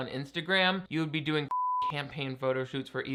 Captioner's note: beep